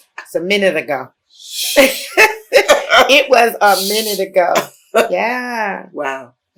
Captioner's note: laughter